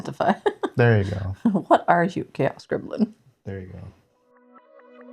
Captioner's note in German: lacht